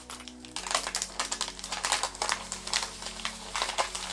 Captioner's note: plastic rustling